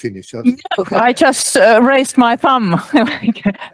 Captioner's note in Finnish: Laughs